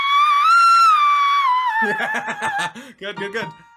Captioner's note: laughs as he says it